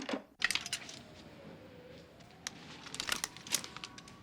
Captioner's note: siren wails